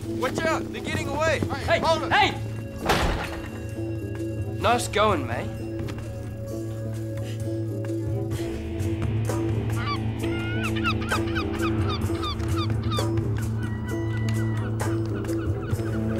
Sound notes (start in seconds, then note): 9.6 seagulls squawking